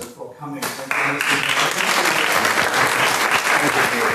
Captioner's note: applause